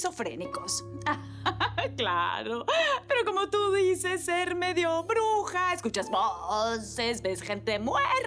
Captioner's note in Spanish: Ríe